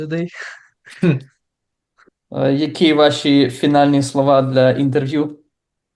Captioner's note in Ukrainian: сміється